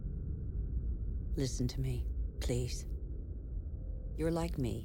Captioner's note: woman Narrating